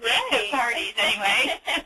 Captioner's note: laughs